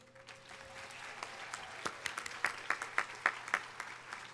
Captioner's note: audience applauding